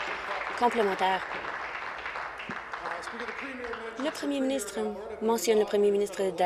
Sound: applause

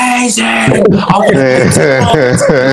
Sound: laughter

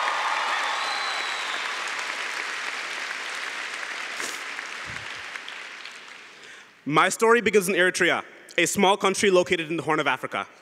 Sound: cheering & Applause

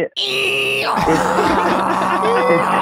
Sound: Glenn making braying sound

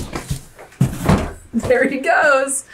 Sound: box banging on wall

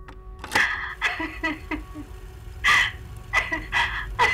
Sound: recorded laughter

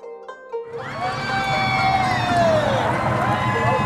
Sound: cheering

